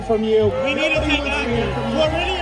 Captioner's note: booing